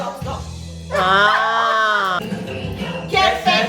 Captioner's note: laugh